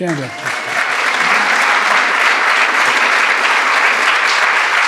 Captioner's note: audience clapping